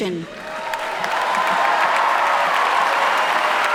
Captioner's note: applauding